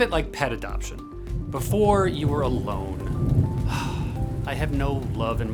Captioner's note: sighs